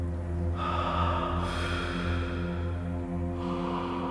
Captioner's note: exhaling